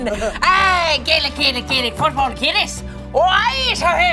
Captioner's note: chanting